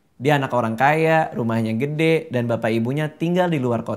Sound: none

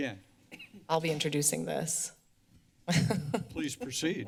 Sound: laughs

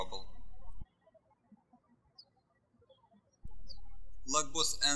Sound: birds chirping

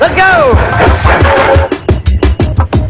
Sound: train engine

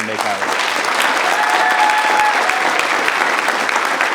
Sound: audience applause

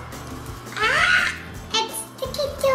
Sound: yells

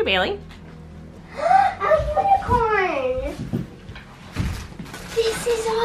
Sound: gasps

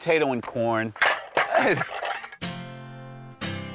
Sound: cans rattling; acoustic guitar

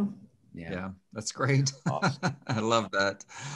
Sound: laughs

